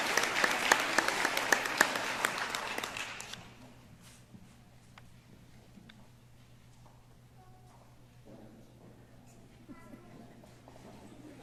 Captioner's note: applause